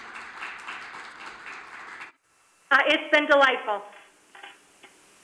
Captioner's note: applause